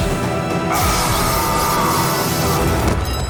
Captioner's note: screaming